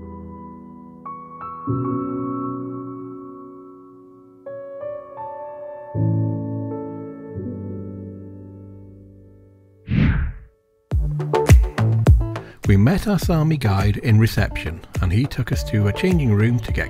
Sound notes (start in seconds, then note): 0.2 gentle music; 9.8 screen whooshes